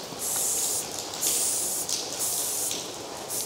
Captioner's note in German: Zischen